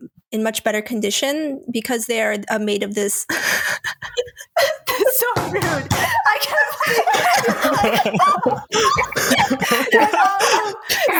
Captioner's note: laughs